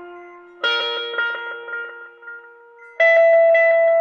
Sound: heart monitor beeps

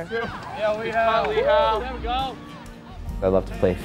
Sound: spectators cheering

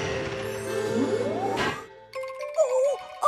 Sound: crane Whirring

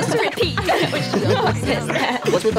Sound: all laugh

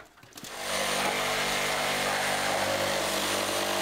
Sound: saw whirring

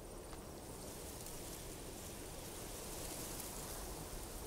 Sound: wheat rustles in the wind

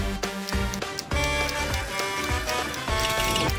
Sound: Blaze honking

